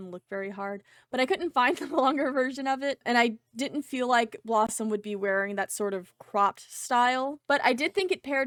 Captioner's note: laughter